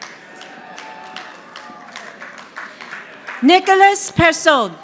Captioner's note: audience applauding